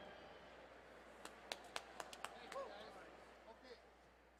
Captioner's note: quiet chatting fading